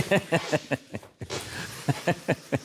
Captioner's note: Rhett Laughs